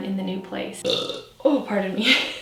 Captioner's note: burping